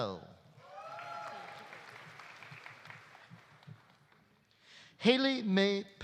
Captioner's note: audience cheering; audience applauding